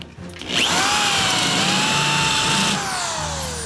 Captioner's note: drill whirs